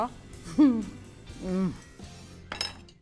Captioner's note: chuckles